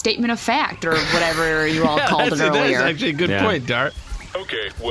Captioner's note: laughs